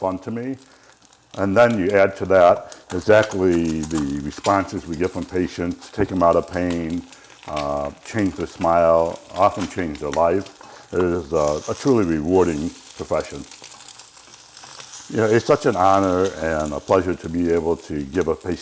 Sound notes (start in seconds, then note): 13.5 frying food sound